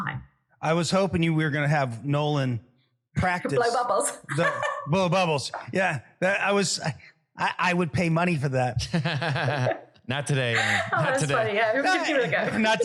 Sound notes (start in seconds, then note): 8.8 laugh